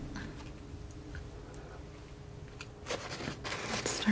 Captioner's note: scratching